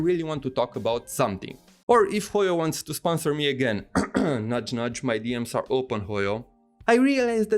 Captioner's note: couch couch